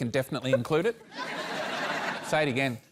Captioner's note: laughter